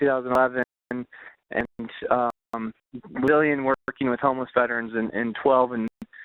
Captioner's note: voice distorting